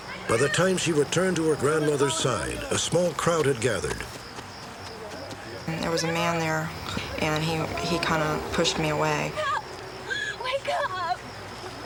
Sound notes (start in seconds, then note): 10.0 crying